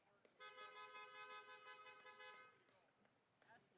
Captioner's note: car horn honking